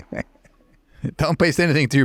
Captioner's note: laughing